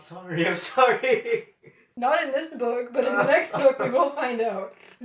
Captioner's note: laughter